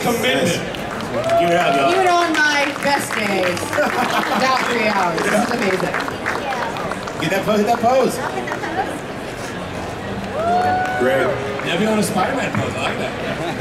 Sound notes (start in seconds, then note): 1.0 audience cheering; 4.0 audience clapping drowns out speaker; 10.2 audience cheering